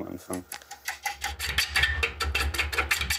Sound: rhythmic clacking

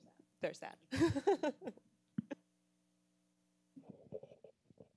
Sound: laughs

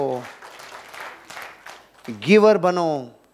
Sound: rounds of applause

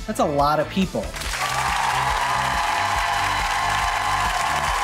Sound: audience cheering

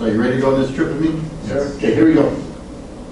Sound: group mumbles affirmatively

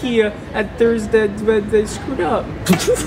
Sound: stammers

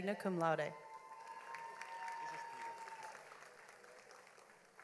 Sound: audience applauds

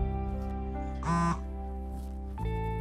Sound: cell phone vibrates

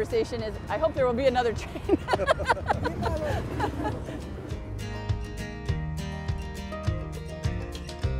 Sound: laughter

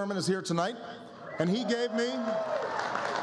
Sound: applause

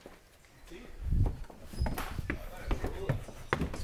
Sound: foot steps

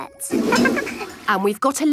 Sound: toilet flush

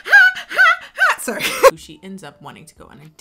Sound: laughing

